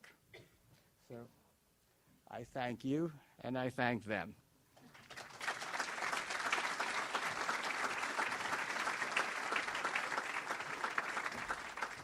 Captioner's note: audience applauds